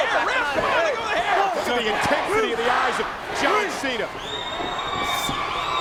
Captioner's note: presenter speaking faintly off mic